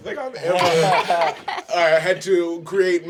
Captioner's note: laughing